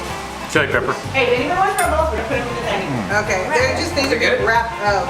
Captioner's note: chatter